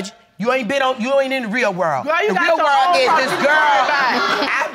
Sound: audience laughing

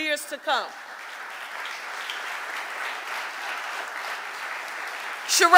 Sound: audience applauding

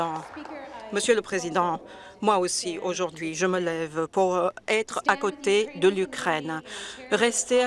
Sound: some Applause

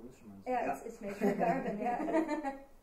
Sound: laughing

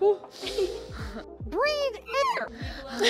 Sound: sniffs; laughs; high pitched, “Breathe air!”; laughing; breathing noise

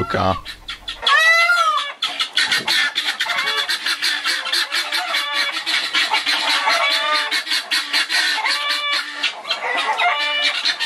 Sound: bird orchestra

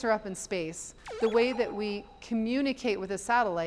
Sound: satellite bleeping

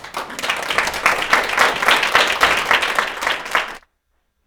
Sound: audience applauding

